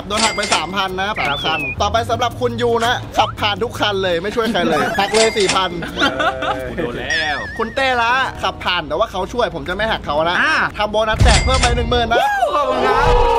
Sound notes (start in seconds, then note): 7.2 laughs